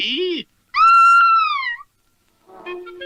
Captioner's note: Sweet Polly Purebred Screams